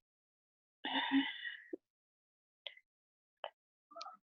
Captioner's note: sighs